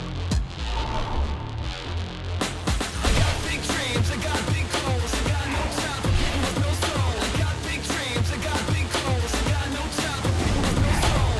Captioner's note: crowd cheering